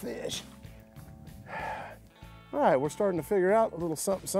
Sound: sighs

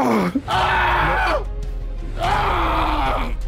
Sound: screaming

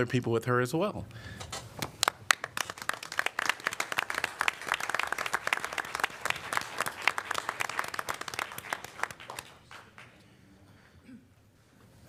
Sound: applause

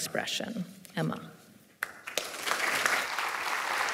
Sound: applause

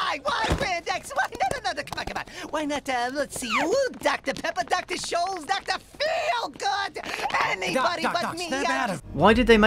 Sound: neurotic rambling and screaming

